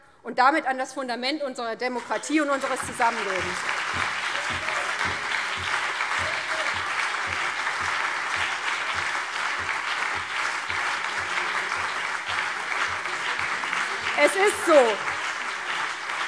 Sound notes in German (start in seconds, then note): 4.2 Beifall BÜNDNIS 90/DIE GRÜNEN und CDU